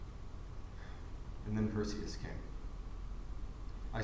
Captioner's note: sigh